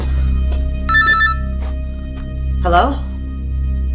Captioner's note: ominous music; phone ringing